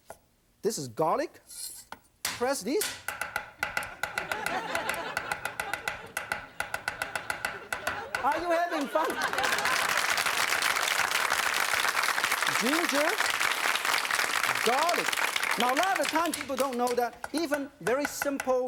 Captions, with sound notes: This is garlic, press this. (chopping) (audience laughing) Are you having fun? (audience applauding) Ginger, garlic, now a lot of the time people don't know that even very simple